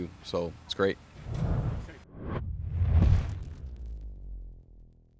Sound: whoosh

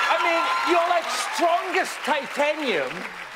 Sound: cheers and applause

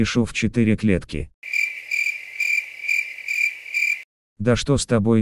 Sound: cricket sound

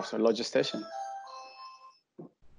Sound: door bell ringing

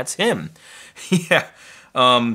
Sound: laughs

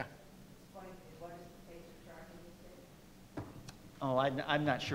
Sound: faintly speaking

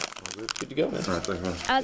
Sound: nat pop of grabbing products

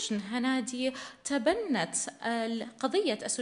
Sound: in arabic

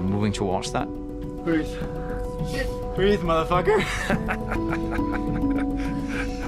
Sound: laughs

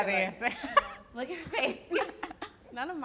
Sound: laughing

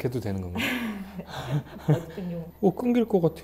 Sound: hehehe

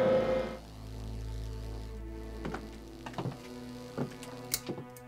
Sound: electricity buzzing; light fixture clicking

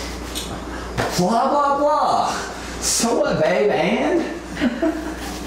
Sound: chuckles

